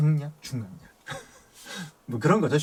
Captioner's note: ha ha ha